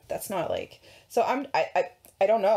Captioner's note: stuttering